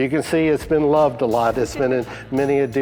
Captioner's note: laughs